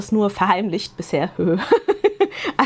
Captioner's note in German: gelächter